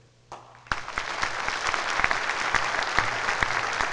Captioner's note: loud applause